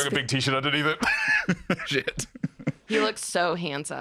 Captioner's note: laughing